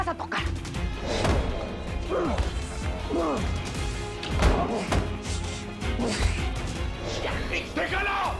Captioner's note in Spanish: Quejidos; Golpes